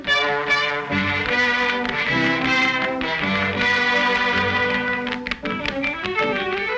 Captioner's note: horse hooves clomping; gentle music; bright orchestral music